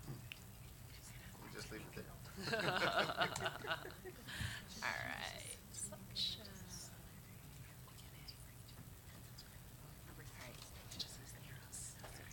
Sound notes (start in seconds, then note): 2.3 laugh; 6.2 murmurs